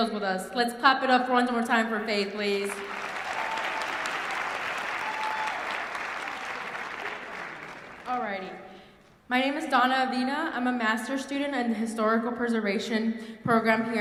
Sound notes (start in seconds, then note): 2.3 applause